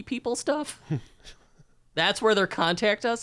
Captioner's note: chuckling